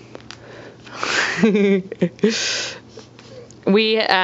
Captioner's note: giggles